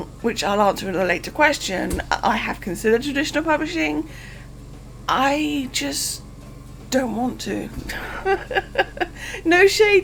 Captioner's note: laughing